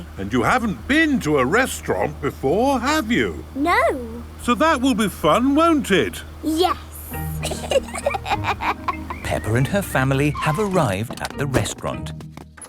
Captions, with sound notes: - And you haven't been to a restaurant before, have you? - No. - So that will be fun, won't it? - Yes. - (both laughing) - Peppa and her family have arrived at the restaurant.